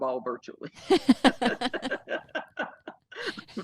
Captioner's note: both laughing